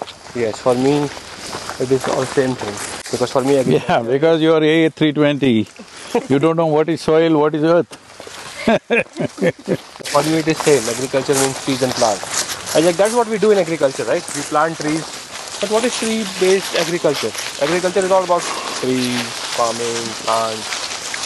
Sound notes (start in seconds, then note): 8.5 laughs